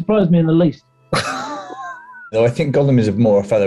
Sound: sniggering

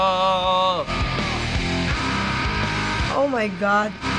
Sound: singer screaming

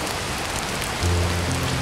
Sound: rain

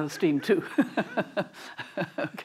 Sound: chuckling

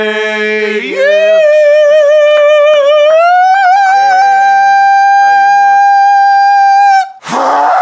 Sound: very high pitched; muffled scream

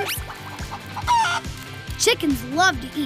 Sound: clucking

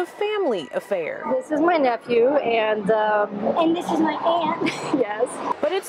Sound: laughs

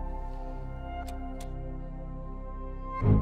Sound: button Clicks

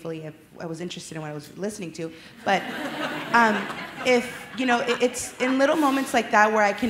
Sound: laughter

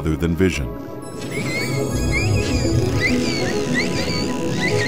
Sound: dolphins squeaking

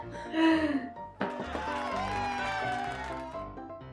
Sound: both laughing; audience cheer

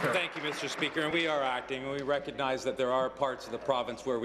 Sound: applause

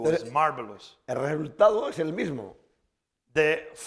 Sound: speaking spanish

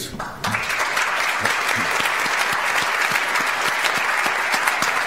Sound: audience applauds

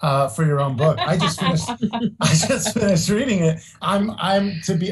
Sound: laughs

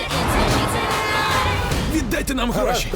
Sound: horn blares

